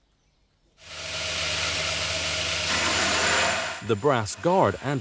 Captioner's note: grinding sound